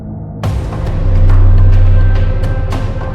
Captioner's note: spaceship whirring